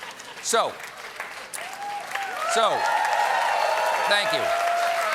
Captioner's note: cheers and applause